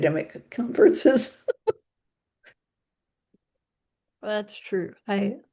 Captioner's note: laughs